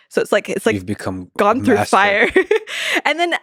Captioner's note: laughs